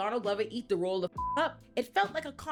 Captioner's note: beep